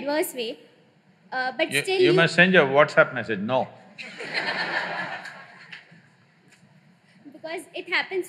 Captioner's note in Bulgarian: Смях